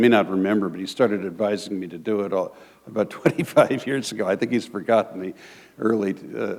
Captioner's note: chuckle